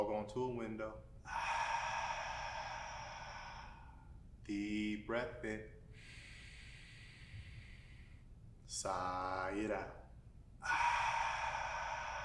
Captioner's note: outward breath; inward breath